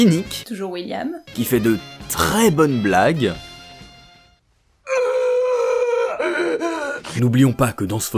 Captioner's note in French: crie